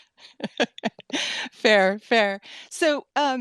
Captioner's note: laughing